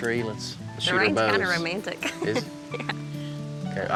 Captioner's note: giggles